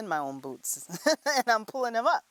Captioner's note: laughter